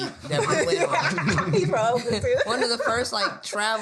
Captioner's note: laughing